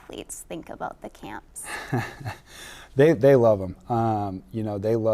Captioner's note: laughing